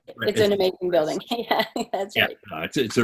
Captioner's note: laughing